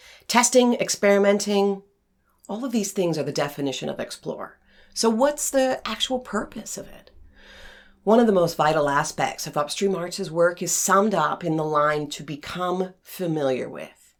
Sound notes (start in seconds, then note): none